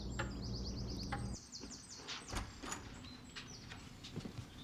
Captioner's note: door opens